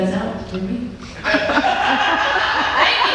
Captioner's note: audience laughter and backstage laughter